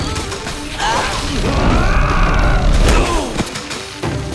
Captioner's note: grunting